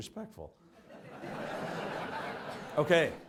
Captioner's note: audience laughs